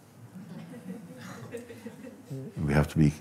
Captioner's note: Lachen